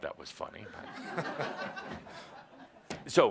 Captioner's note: some laughter